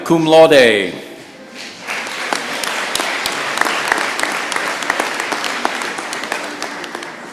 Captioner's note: applause